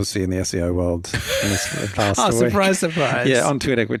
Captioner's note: chuckles